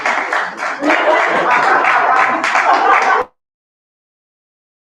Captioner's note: cheering; laughter